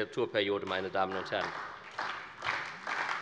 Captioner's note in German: Beifall bei der SPD